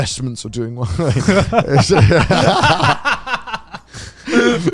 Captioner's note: all laughing